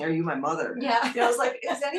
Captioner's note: laugh